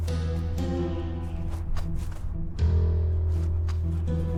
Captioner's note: wind whistling